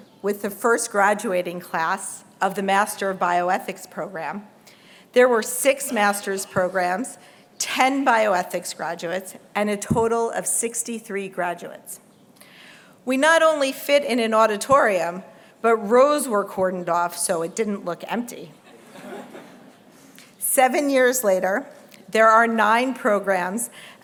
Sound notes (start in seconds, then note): 18.6 laughter